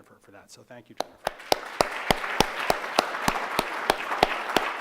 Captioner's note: audience claps